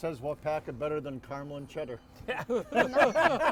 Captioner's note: everyone laughing